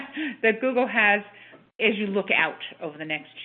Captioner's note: laughs